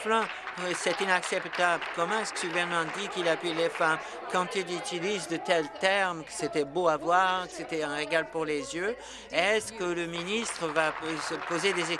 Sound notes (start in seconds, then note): 4.7 applause